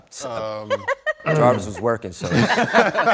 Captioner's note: laughter; she Laughs